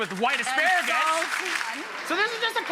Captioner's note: audience applauding